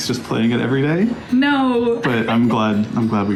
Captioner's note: laughs